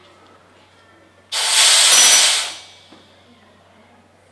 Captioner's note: air hisses